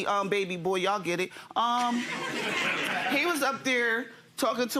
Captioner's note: audience laughing